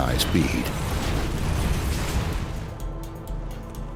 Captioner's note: crashing